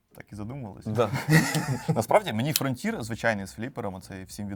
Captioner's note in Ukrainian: сміх